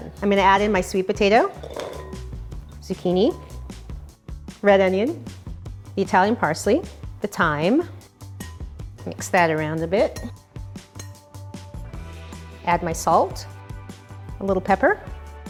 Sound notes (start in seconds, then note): 1.7 soft clatter; 10.1 soft clanging; 10.4 upbeat contemporary music